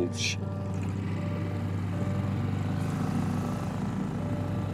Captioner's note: boat engine hums